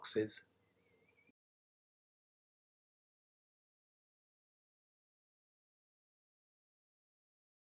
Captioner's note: presentation slide goes in silence